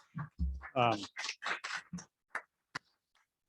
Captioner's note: applauding